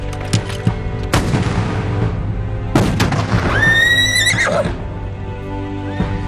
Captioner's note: gunshots booming; horse neighs